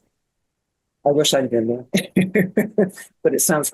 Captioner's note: laughing